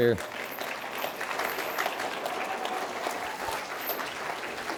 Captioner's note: applause